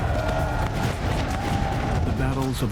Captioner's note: clamoring